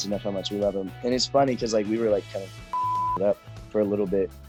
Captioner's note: beep